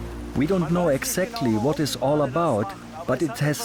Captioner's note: in German